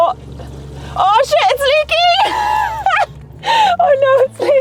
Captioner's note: laughing